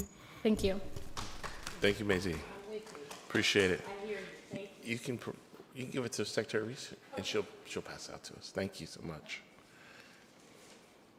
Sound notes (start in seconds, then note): 1.0 attendee claps